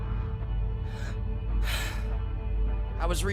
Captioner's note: sigh